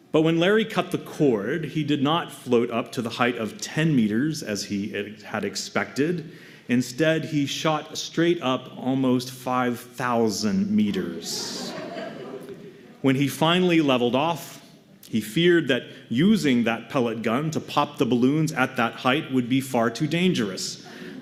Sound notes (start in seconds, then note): 11.2 laughter